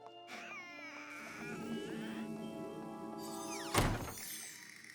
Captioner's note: creeeak!